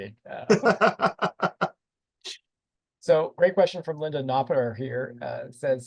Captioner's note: laughter